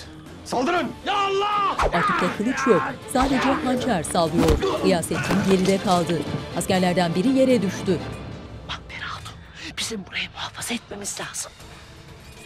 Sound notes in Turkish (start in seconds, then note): 1.0 Bağırma sesleri